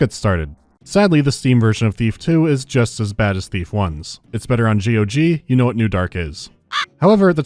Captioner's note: caw